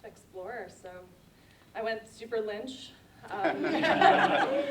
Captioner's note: laughter